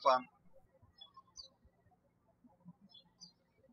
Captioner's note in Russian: птички щебечут